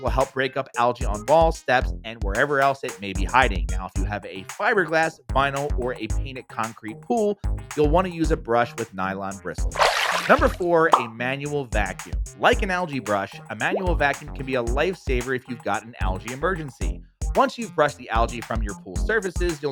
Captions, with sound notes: will help break up algae on walls, steps and wherever else it may be hiding. Now, if you have a fiberglass, vinyl or a painted concrete pool, you'll wanna use a brush with nylon bristles. (water splashing) Number four, a manual vacuum. Like an algae brush manual vacuum can be a lifesaver if you've got an allergy emergency. Once you've brushed the algae from your pool services